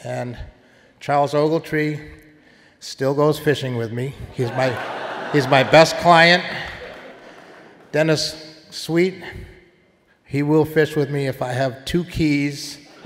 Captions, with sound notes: And Charles Ogletree still goes fishing with me. (audience laughing) He's my best client. Dennis Sweet, he will fish with me if I have two keys,